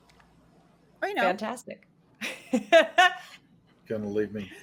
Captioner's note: laughs